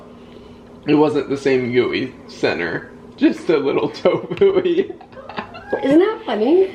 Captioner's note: laughs